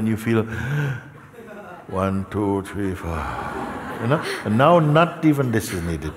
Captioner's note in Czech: zhluboka se nadechne; vydechuje